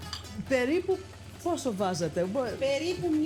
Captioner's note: speaking greek